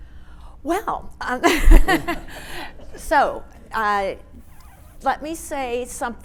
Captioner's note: audience laughing